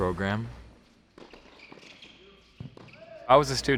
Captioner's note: sneakers squeak